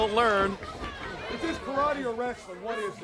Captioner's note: crowd cheering; crowd chatter